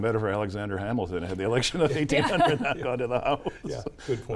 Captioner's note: laughs